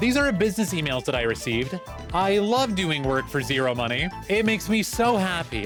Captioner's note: sarcasm